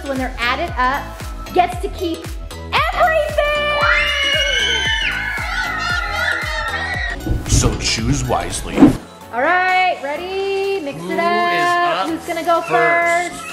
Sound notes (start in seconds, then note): 3.6 excited screaming